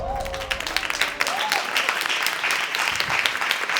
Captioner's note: audience applauding